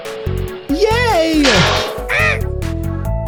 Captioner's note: laughing; clunks; grumbles